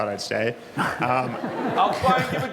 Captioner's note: laughing